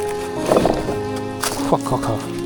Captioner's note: stone rumbling